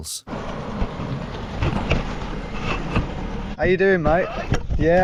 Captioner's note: vehicle whooshing